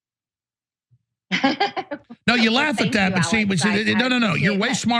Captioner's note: laugh